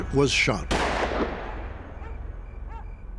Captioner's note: gunshot